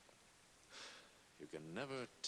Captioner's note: sighs